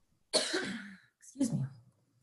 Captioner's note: coughing